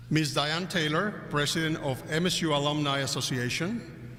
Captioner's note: none